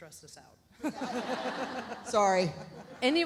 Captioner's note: audience laughs